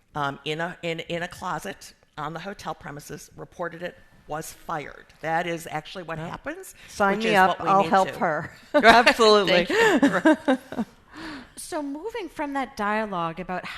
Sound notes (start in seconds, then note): 9.5 laughing